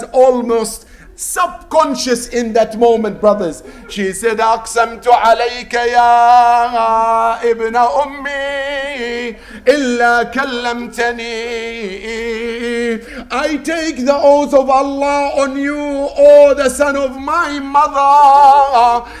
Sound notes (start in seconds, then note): 8.9 Arabic